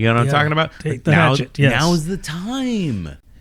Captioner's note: uh